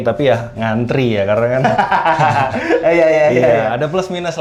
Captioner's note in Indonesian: tertawa